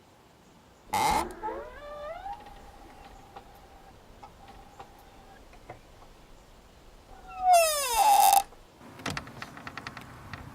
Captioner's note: door creaking